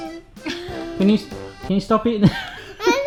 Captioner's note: laughing; lauging